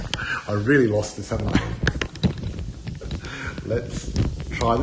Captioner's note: laughs